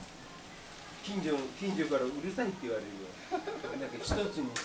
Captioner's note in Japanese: ダクトの音が